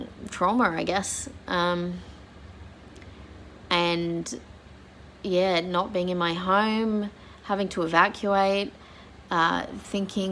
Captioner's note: voice wobbles slightly